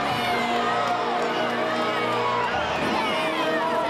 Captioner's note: crowd cheering